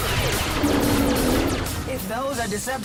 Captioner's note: roaring